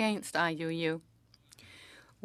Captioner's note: speaking French